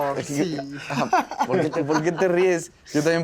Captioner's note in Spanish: Risas